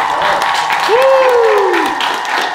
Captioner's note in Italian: Grida di gioia